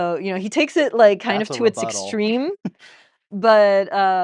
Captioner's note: laughs